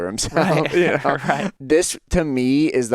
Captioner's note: laughs